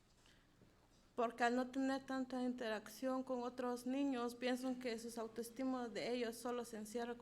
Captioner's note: speaking in foreign language